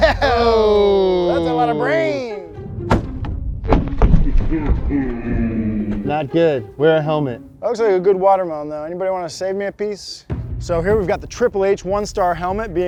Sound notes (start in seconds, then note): 0.0 laughing; 4.2 slow-motion laughing